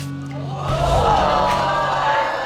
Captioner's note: audience exclaims